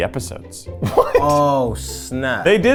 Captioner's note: laughs